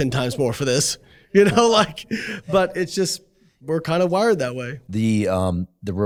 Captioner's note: chuckles